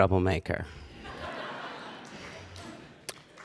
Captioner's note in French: Rires